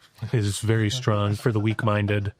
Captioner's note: laughing